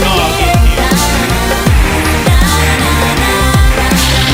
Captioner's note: gun Fires